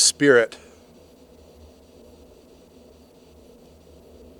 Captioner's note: static crackling